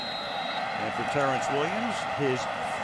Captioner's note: whistle